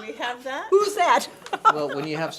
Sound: laughs

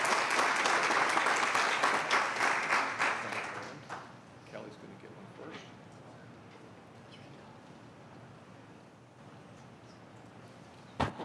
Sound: applause

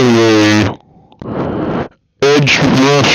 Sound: inhales

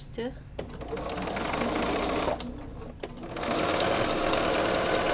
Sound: machine humming

